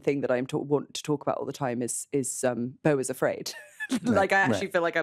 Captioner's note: laughs